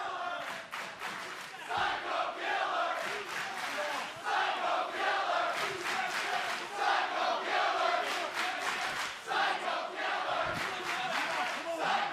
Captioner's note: fans chanting